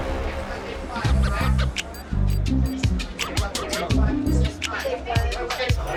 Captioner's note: chatter